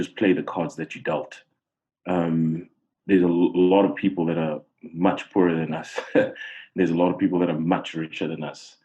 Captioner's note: laugh